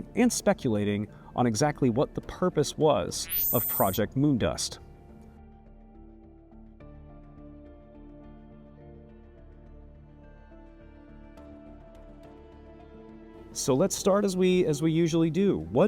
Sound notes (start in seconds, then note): 3.2 text chimes; 5.3 mysterious music continues